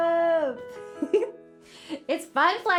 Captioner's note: giggles